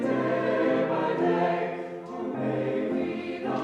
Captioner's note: all clapping